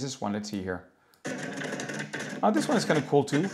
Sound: sound effects

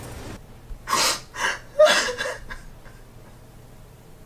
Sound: woman sobbing

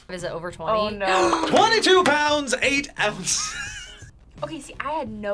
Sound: gasps

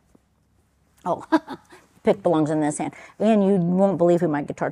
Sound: chuckling

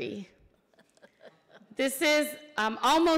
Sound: laughing

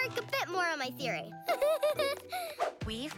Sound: laughs

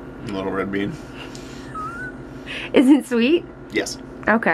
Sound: laughing

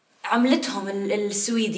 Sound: none

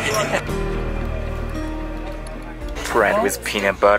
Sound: laughs

